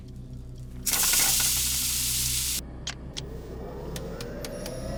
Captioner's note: sizzling